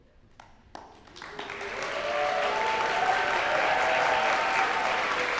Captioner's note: cheers and applause